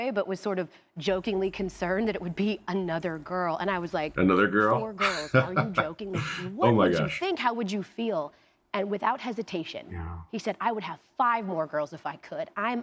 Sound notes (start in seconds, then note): 4.6 laughs